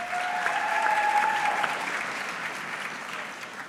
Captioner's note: audience clapping